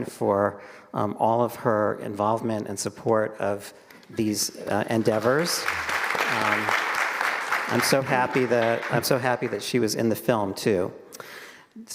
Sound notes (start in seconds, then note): 4.9 all applauding